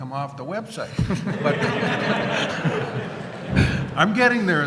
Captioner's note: laughter